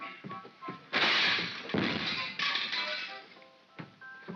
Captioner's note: smashing & clattering sounds; soft whimsical music